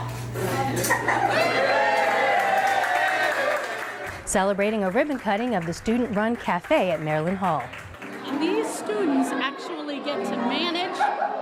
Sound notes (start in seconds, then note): 1.9 crowd applauding